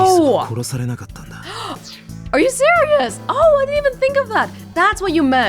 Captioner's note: gasps